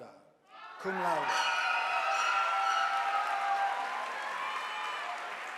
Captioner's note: audience applauding